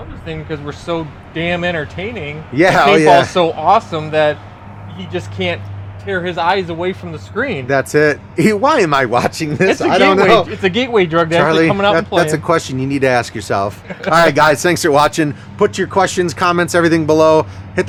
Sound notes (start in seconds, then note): 9.0 chuckles; 13.6 laughs